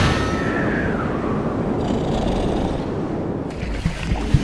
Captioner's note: david snoring; screaming; david snoring